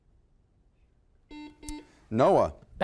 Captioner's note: buzzer